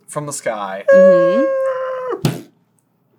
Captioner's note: plane crash noises followed by splat